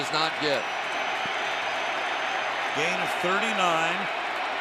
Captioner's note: crowd cheering